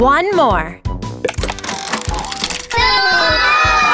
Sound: tile clicking; children yelling

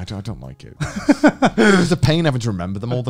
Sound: laughing

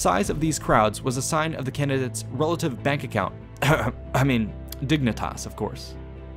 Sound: cough

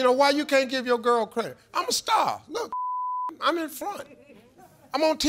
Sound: beeps

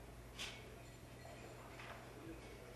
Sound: none

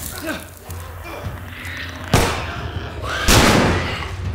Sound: spores burst; Clicker snarls; gun fire

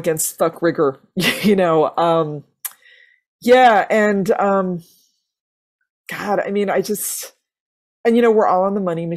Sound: chuckles

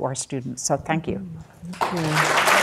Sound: audience clapping

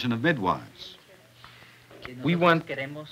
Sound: medical student speaks through interpreter

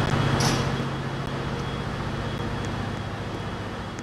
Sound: doors open

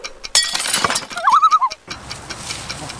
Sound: loon call

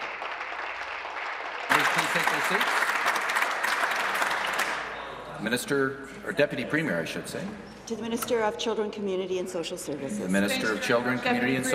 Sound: applause

